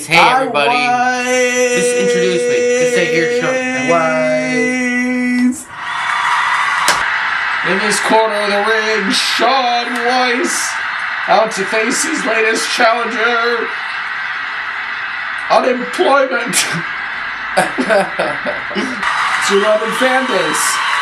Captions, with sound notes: Hey everybody. IWeiss.... Just introduce me. Just say here's Shaun. [applause sound] In this corner of the ring Shaun Weiss. Out to face his latest challenger: Unemployment! It's your loving fanbase.